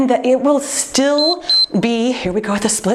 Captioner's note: timer beeps